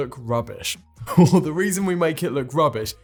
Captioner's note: chuckles